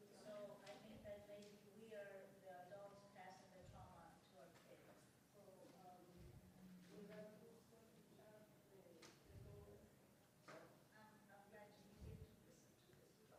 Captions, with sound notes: So I think that maybe we're the adults passing the trauma to our kids. (chattering)